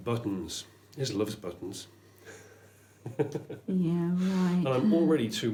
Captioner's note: chuckles